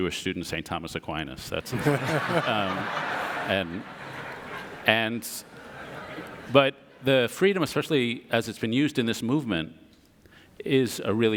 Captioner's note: audience laughter